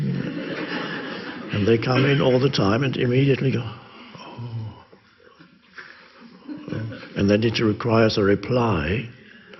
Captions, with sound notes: (audience laughs) And they come in all the time and you immediately go (gasps) oh. And then it requires a reply.